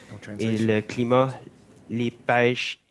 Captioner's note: speaking French